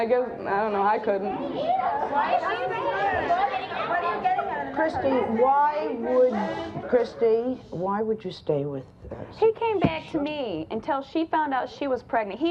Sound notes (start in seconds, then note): 1.9 audience yells